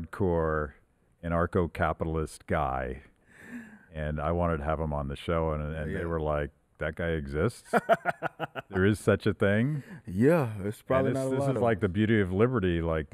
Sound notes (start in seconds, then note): 7.7 laughing